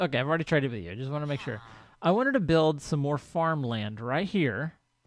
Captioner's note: chattering diminishes